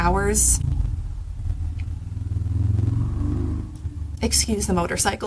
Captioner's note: motorcycle noise lol